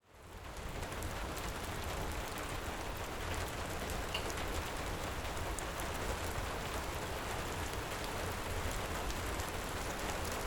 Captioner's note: crackling fireplace, heavy rain, distant thunder